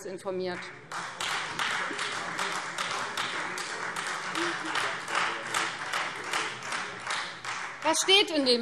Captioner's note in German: Beifall Freie Demokraten und vereinzelt SPD